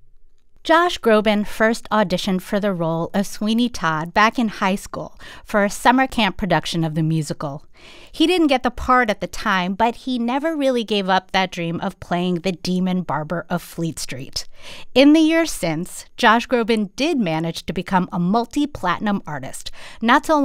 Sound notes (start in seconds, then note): none